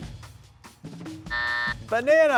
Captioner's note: suspenseful music; buzzer buzzing